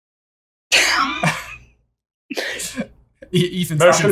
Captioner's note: laughter